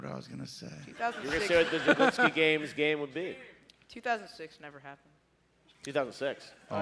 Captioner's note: laughter